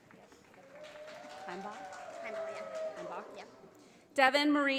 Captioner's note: audience applauding